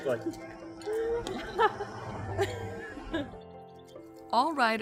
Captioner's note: laughs